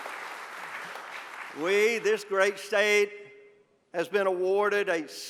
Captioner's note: applause